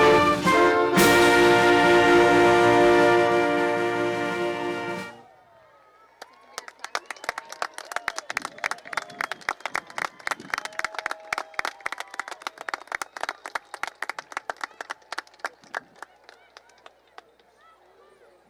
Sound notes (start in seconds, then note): 6.1 applause